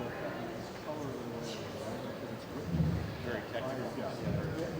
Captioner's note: background chatter